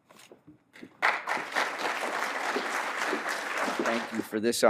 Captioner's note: applause